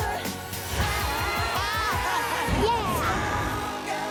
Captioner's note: laughing